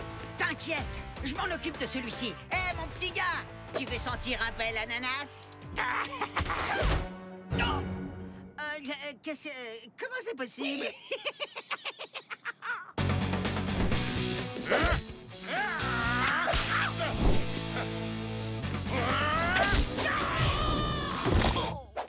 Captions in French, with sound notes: T'inquiète, je m'en occupe de celui-ci. Hé, mon petit gars, tu veux sentir un bel ananas ? [la créature rit] [Peng grogne] Qu'est-ce que... Comment c'est possible ? [la créature rit] [grognement] [créature qui rugit]